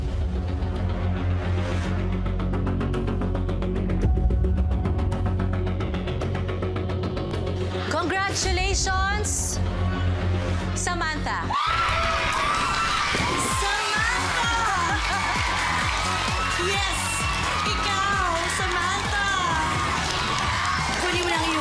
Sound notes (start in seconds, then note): 0.3 tense music playing; 12.3 cheering; 15.5 chuckling